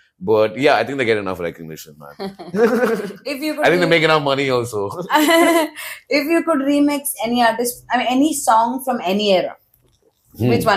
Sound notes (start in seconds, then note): 2.2 laughs; 4.9 laughs